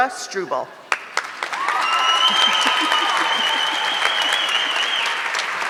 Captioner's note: audience clapping